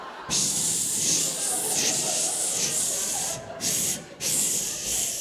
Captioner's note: audience laughing; imitates spray-can spraying